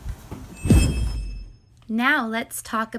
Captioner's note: whooshing